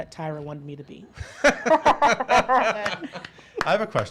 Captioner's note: laughs